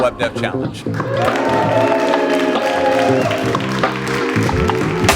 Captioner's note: applause